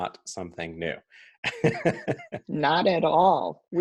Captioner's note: laughs